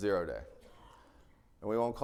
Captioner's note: attendee coughing